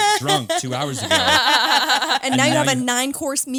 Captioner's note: all laughing